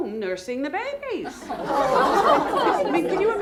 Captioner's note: laughter